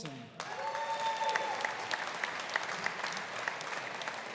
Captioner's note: audience applauding